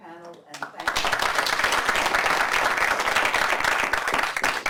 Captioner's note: applause